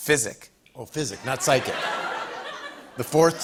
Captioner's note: laughter